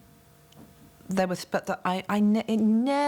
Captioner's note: stammering